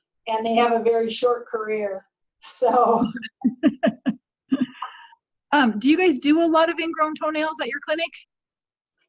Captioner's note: laughter